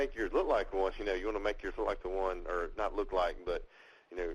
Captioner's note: slurred